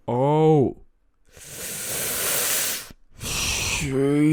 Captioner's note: inhale